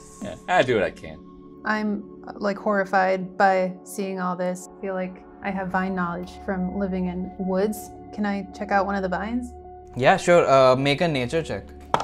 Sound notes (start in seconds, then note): none